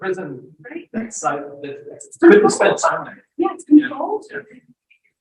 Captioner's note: audio breaks